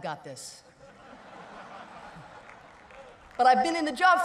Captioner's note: laughter